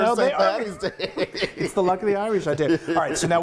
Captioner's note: laughing